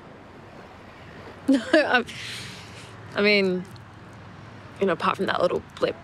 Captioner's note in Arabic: يضحك